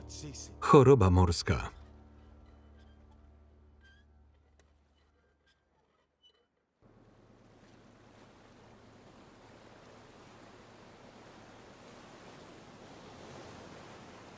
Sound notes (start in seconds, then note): 7.6 waves crashing